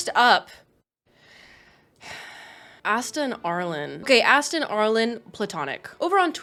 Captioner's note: sighs